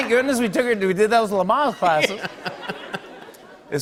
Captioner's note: laughter